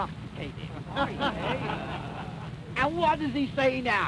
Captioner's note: laughter